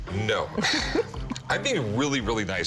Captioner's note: laughter